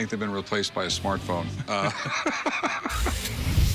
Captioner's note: laughs